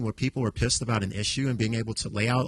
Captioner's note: none